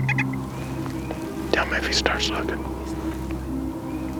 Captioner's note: whispering